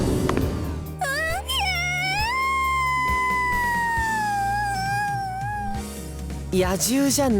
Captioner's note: outrageously louder moan